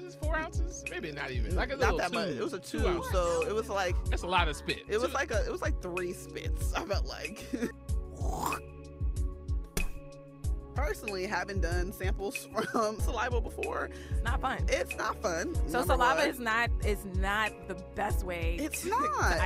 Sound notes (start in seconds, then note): 8.2 audio of someone spitting